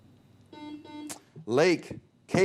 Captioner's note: buzzer beep